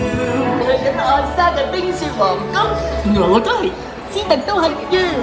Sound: speaks in Cantonese

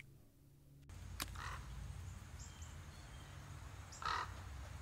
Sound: bird squawking

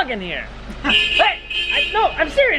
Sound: horn beeping

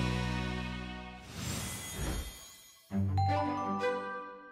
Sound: chimes

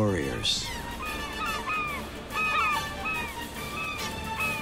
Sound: seagulls caw

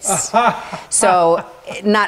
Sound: laughing

